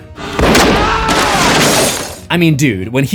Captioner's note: screams